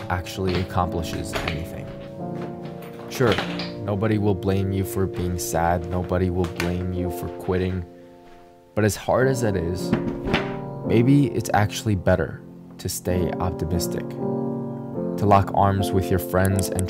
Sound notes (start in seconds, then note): 3.3 luggage clattering; 9.7 laptop clatters